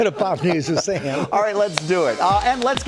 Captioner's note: laughs